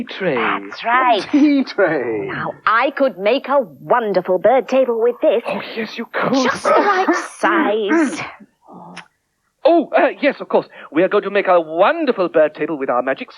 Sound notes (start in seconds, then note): 6.2 magician Coughs Loudly